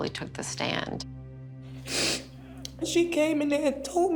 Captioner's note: sniffles